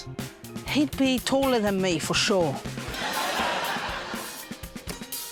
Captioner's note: laughter